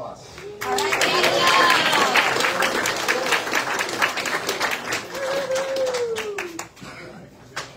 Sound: audience cheers and applauds

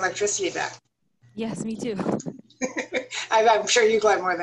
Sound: laughter

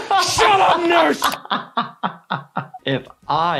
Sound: laughing

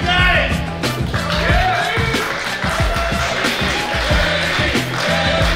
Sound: cheering & Clapping

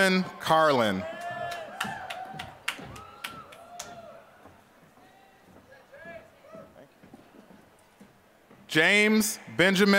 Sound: applause

